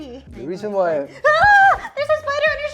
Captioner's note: shockingly screams